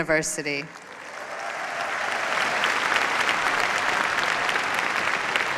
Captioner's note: applause